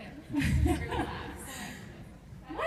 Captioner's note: laughs